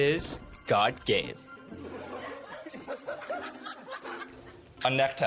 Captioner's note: everyone laughing